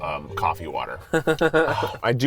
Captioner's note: laughing